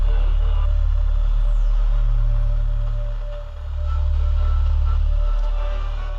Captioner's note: static